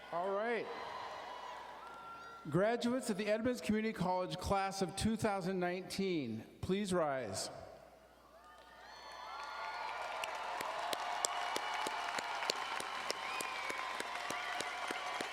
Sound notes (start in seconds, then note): 0.1 audience cheering; 8.4 audience cheering and applauding